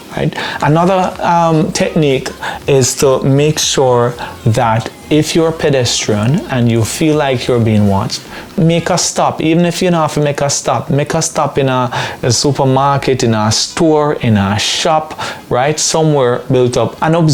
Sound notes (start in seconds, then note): 8.1 speaking patois